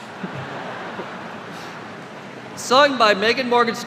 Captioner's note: laughter